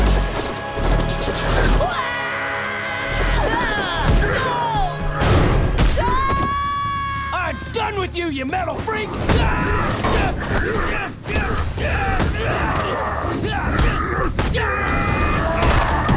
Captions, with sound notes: [yelling] [screaming] I'm done with you, ya metal freak! [grunting]